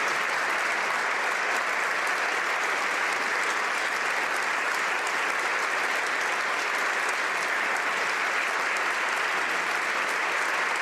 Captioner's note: applause